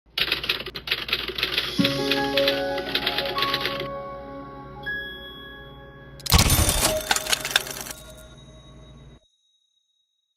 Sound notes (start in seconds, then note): 0.1 typewriter typing noises; 6.2 electronic typewriter noise